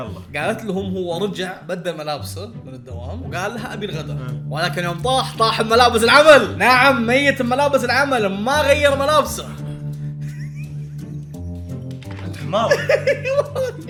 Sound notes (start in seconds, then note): 10.2 laughing in disbelief